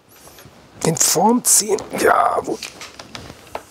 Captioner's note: groaning